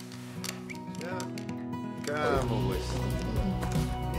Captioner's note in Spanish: silbidos